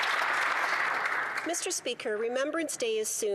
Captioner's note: some Applause